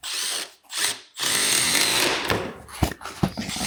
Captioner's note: drill whirring